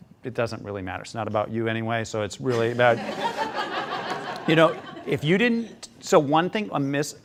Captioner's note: students laughing